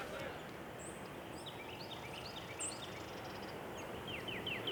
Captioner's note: birds chirping